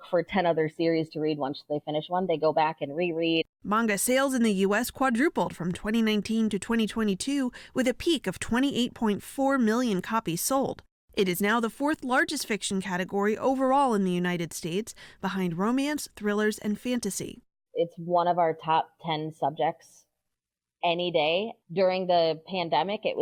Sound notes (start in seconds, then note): 4.1 voice-over